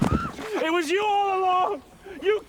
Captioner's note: screaming